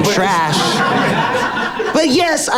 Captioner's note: people laughing